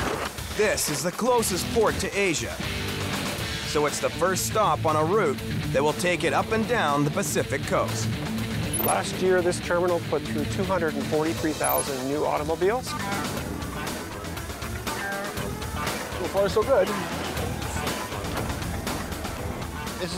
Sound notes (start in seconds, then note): 13.2 distant alarm blaring; 17.6 cheerful upbeat music continues